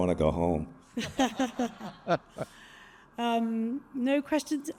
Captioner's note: all laughing